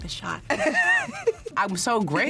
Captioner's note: laughs